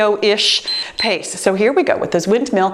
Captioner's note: timer beeps